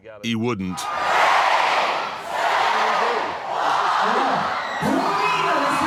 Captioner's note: crowd